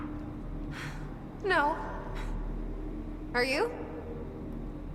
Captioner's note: breathes heavily; sighs